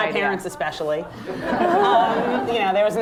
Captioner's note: laughter